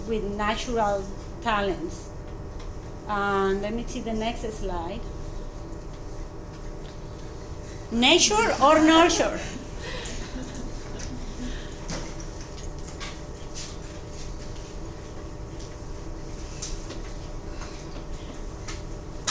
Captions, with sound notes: with natural talents. Let me see the next slide. Nature or nurture. (students chuckling)